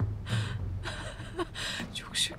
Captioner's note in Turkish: Gülme sesi